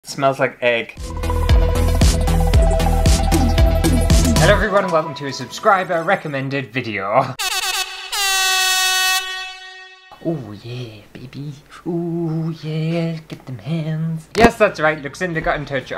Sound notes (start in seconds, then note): 1.0 intro Music; 7.4 air horn!!